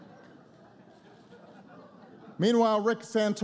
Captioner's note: laughter